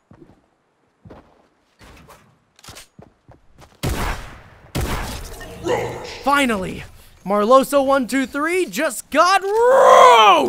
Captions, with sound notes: (gun bang) Finally, marloso123 just got roached!